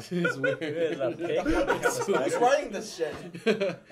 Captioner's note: laughter